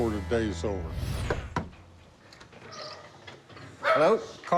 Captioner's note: knocking